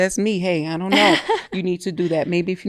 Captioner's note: laughing